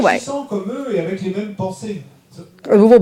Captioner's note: speaking in French